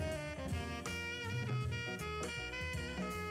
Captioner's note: none